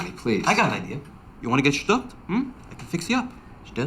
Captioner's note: speaking in foreign language